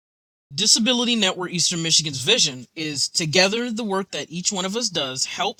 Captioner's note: voiceover